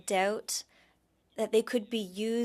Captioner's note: speaking French